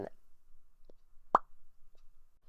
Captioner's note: pop